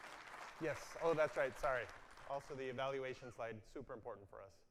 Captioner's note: applause